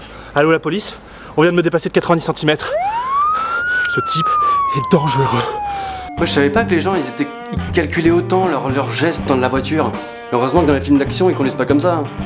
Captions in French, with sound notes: Allô la police ? On vient de me dépasser de 90 centimètres... (Bruits de voiture de police) Ce type est dangereux ! Moi je savais pas que les gens ils étaient Ils calculaient autant leur gestes dans la voiture... Heureusement que dans les films d'actions, ils conduisent pas comme ça !